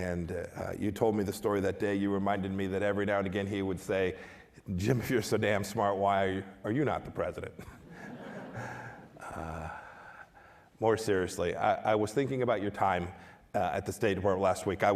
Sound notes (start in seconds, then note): 7.6 laughter